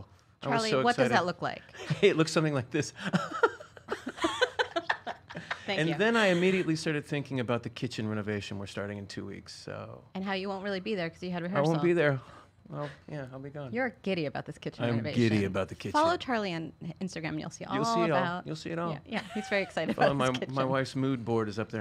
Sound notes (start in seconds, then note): 3.0 laughs